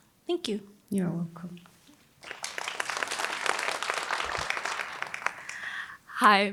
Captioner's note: applause